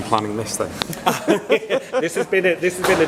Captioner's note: laughter